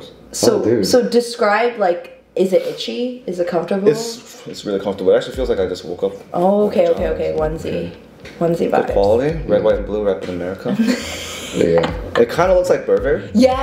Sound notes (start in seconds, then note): 10.6 laughs